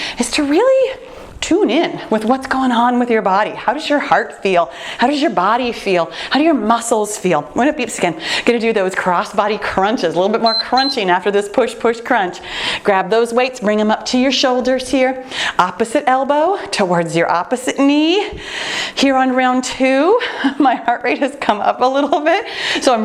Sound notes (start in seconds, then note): 10.4 timer beeing